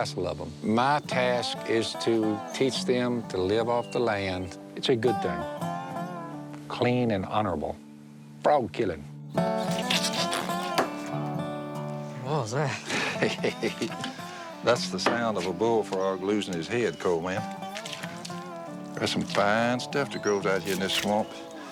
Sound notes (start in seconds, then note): 9.4 spattering; 12.6 laughter